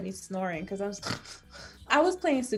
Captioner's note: snores